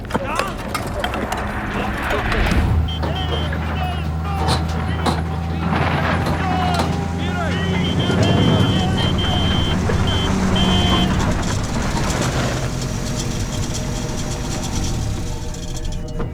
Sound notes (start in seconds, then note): 2.1 horn honks; 5.4 men shouting; 7.4 horn honking; 11.3 engine stops